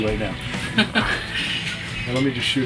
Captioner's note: laughing